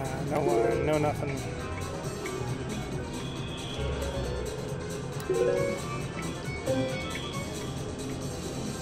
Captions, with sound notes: No line, no nothing. (machine beeps)